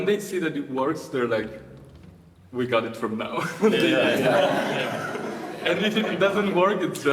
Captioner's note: audience laughing